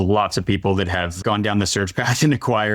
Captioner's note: laughing